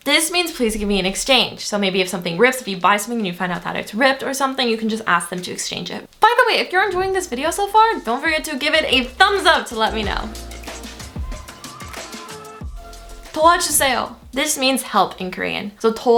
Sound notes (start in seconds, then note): 10.4 upbeat music; 13.1 speaking Foreign Language